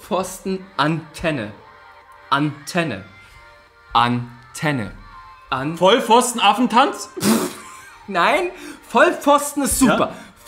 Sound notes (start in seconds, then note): 7.2 snorts